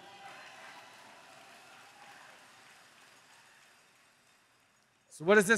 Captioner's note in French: Applaudissements